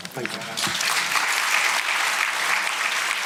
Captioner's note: applause